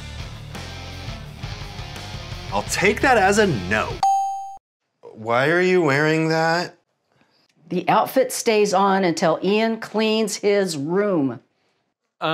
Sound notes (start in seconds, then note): 4.0 check mark dings